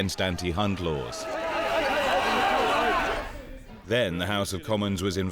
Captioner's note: yelling